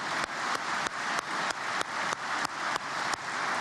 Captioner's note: applause